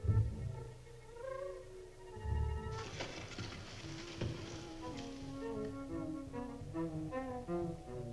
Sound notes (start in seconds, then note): 2.7 rustling